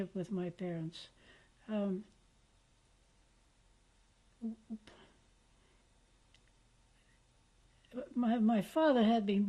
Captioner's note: pauses for 7 seconds